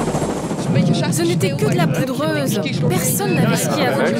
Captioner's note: foreign language spoken audio